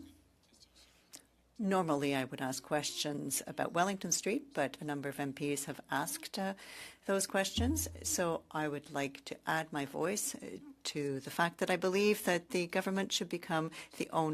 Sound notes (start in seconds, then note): 0.6 speaking French